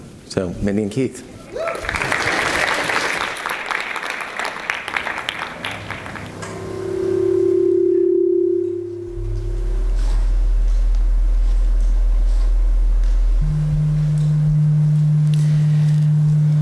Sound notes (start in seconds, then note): 1.4 audience applauds; 6.5 microphone feedback whines